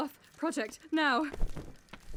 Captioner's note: fabric rustles